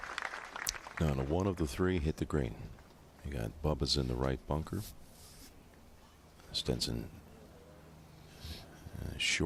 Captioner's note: applause